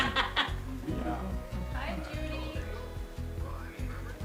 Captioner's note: laughter